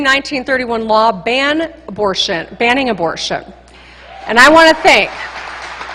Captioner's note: applause